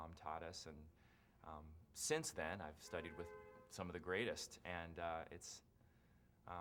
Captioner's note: horn honks in background